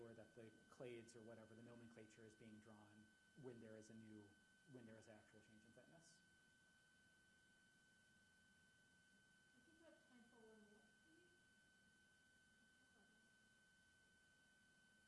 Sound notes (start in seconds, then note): 9.8 student faintly speaking